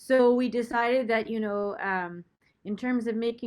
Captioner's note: none